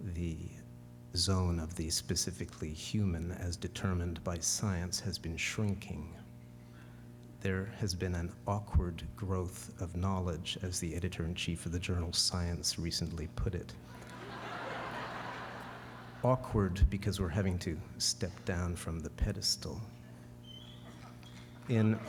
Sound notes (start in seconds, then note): 13.9 laughter